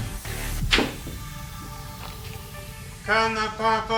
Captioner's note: pool ball clacks